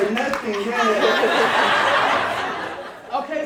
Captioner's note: audience laughing